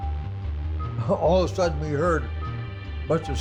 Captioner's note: chuckles